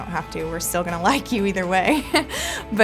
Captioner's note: laughs